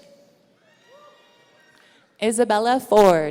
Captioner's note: audience cheering